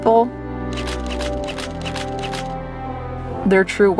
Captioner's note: camera shutter clicking